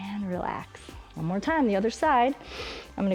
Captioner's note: inhales